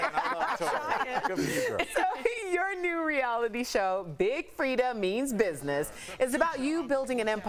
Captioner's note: laughter